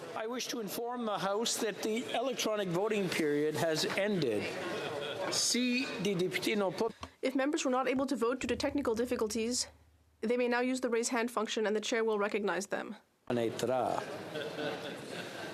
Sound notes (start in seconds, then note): 9.2 speaking French